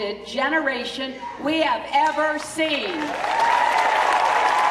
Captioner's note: cheering